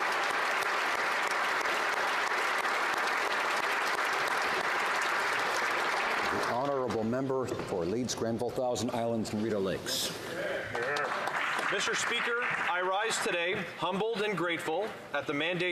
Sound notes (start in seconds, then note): 0.0 applause